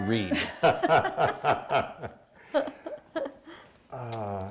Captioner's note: laughing